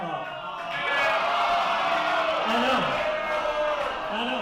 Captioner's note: crowd awwing